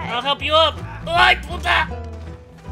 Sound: complains in Spanish

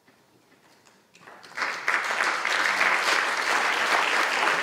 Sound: applause

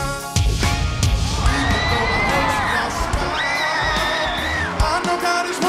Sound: screams

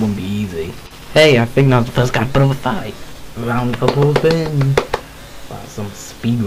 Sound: round of applause

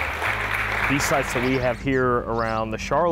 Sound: audience applauding

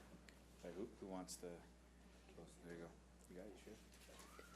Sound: speaking faintly

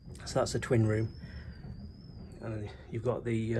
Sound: wind whistling

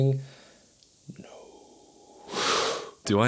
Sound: whispers

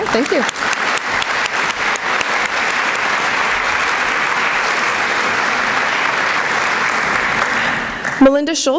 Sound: applause

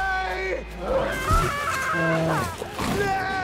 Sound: bear snarling; screams; Elsa screaming; yells

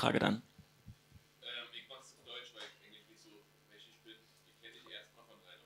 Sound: audience member speaking

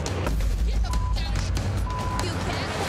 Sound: beep

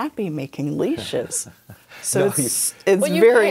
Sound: laughs

